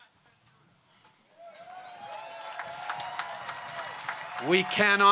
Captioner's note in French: Acclamations et applaudissements